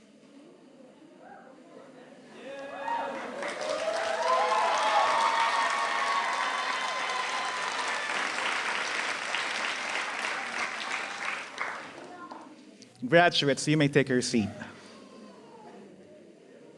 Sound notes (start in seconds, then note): 2.6 applause